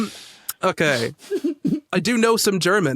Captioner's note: laughter trails off; stifles giggle